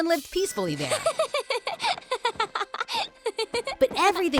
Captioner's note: laughing